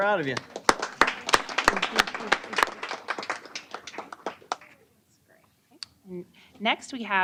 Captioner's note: applause